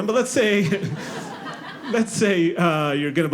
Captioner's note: audience laughing